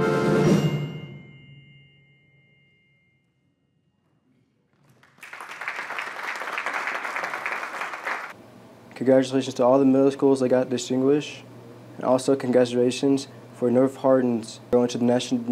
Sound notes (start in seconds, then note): 4.7 applause